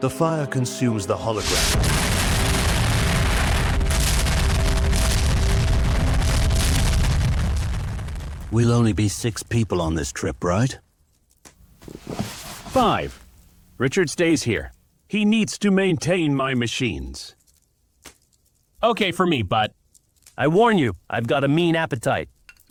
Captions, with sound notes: The fire consumes the hologram. (Fire explosions) We'll only be six people on this trip, right? Five. Richard stays here. He needs to maintain my machines. Okay for me. But I warn you, I've got a mean appetite.